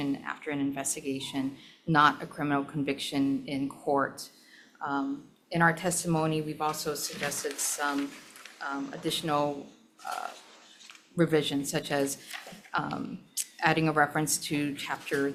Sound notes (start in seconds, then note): none